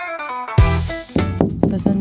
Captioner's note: door knocking